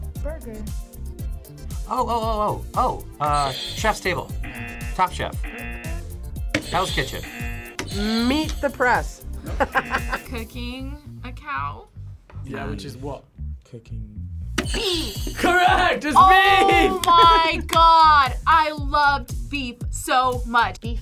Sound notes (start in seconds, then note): 4.2 buzzer rings; 4.4 buzzer; 6.6 buzzer rings; 9.4 laughs; 9.7 buzzer; 14.4 buzzer rings